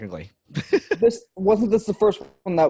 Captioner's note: laughs